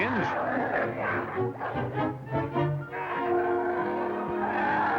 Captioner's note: growling